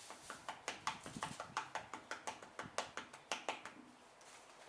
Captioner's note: tap tap tap